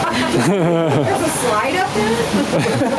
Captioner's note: laughing